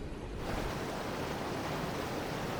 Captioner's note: river water rushing